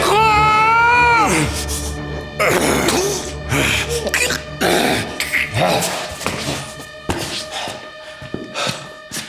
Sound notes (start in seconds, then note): 0.0 Siegmund crying; 4.2 Siegmund gagging; 6.7 eerie music